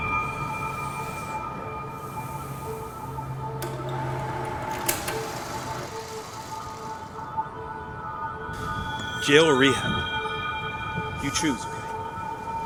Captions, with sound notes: (projector humming) (high frequency humming) - Jail or rehab, you choose.